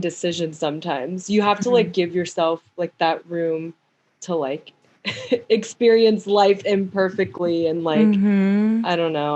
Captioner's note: mhm!